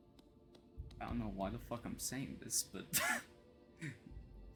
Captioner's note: wheeze